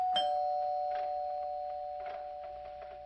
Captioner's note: bell chiming